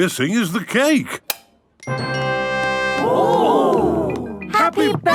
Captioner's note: click